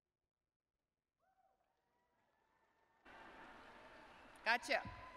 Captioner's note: applause